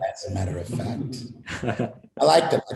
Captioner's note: laughter